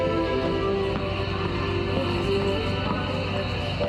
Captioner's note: siren begins blaring